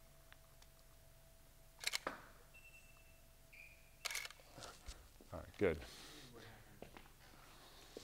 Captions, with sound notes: (camera shutter clicks) Alright, good.